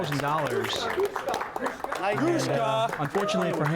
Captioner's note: audience applause